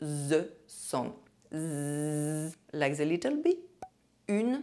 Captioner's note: zzzzzzzz